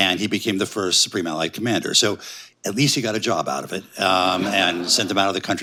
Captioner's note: laughter